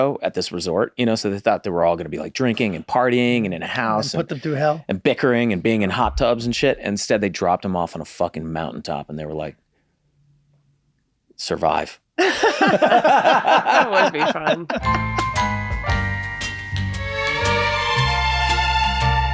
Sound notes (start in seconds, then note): 12.2 everyone laughs; 15.3 upbeat music